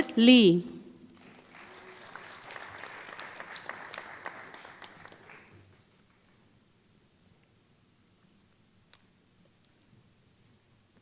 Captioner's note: applause